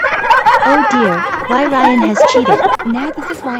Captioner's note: Pauline and her Friends Laughing